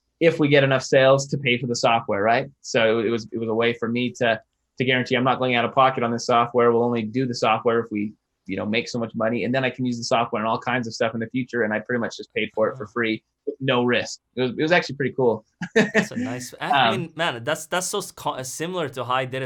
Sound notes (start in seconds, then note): 15.6 laughing